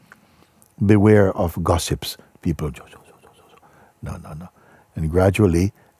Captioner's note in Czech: šeptá